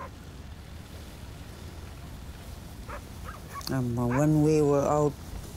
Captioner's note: dogs barking